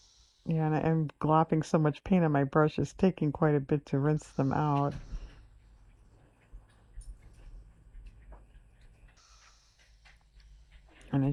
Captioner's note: laughs